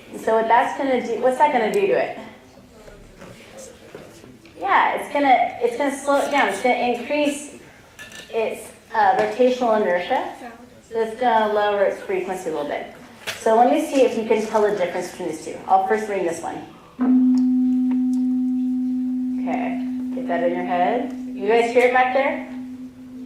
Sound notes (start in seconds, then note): 17.0 tone